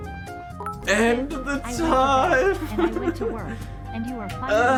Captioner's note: laughs